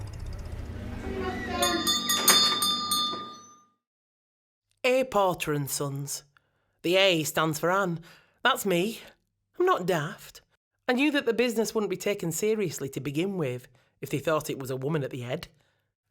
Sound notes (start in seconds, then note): 1.4 shop doorbell tinkles